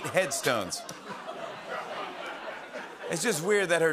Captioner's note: light laughter